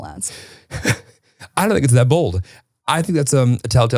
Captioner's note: chuckles